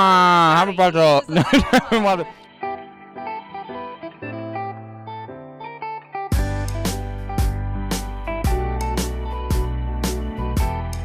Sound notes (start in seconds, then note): 1.2 laughter; 3.7 easy listening music